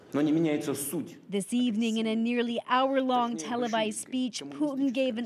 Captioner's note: speaking Foreign Language